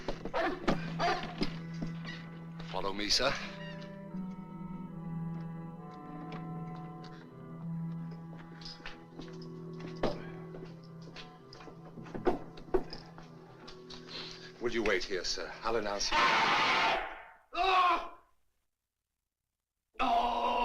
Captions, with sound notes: Follow me, sir. Would you wait here, sir. I'll announce youó [Man Screams] [Yelps, Groans]